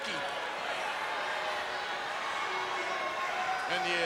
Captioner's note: crowd yelling